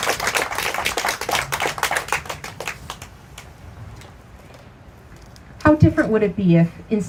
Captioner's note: applause